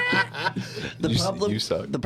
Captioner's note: laughing